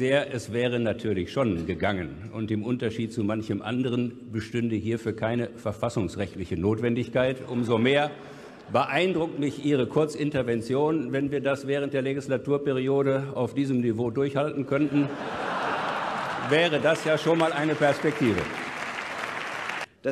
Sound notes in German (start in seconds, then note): 14.8 Gelächter; 18.5 Applaus und Gelächter